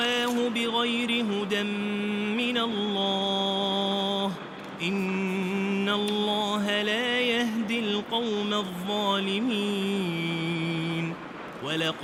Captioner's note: fire